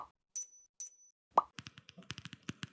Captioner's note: pop